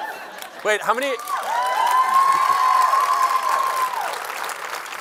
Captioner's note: laughter; cheering